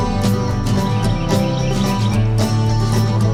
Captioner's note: birds chirping